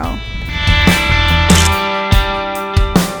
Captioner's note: photo click